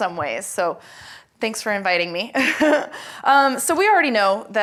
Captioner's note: laughs